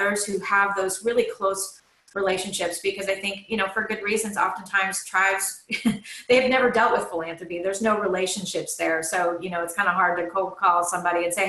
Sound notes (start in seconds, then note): 5.3 laughs